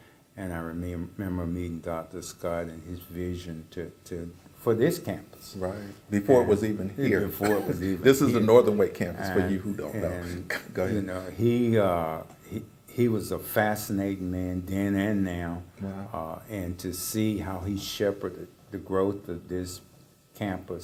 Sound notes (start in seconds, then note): 7.1 laugh